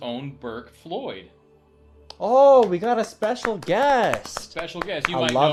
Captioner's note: clapping